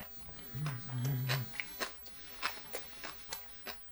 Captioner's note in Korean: 콧노래